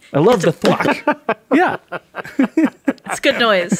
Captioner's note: laughing